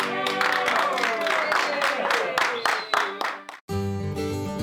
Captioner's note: cheers and applause